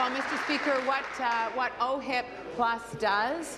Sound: applause

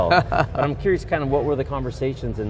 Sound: laughing

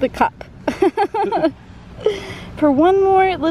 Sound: chuckling

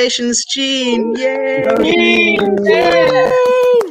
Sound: cheers

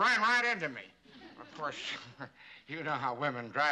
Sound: chuckles

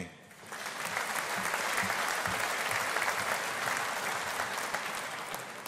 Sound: audience applauding

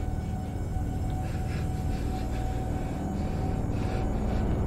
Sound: shaky breathing

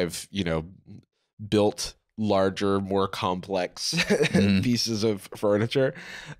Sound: laughing

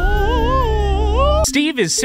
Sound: howling

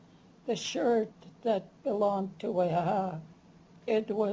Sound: non-english

